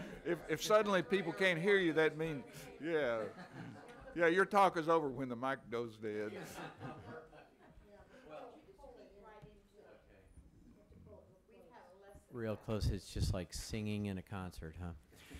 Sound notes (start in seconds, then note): 6.3 some laughing